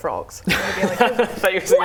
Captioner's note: laughs